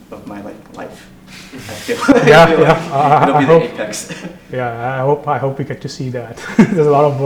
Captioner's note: laugh